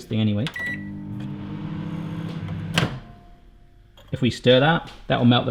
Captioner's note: microwave beeps